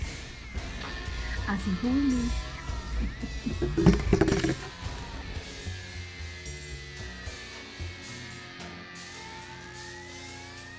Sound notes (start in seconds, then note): 2.8 laughing; 3.8 dramatic blues music